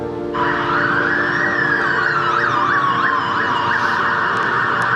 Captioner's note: sirens blaring